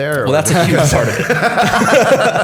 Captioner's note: laughter